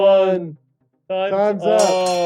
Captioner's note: bell ringing